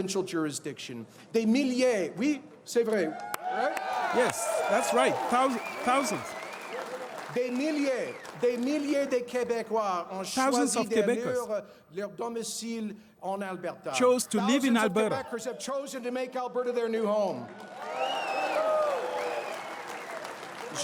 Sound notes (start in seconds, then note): 6.3 speaking French